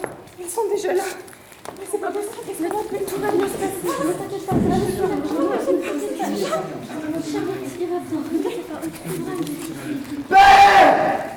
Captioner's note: worried chatter